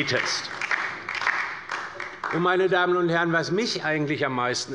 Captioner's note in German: Beifall bei der LINKEN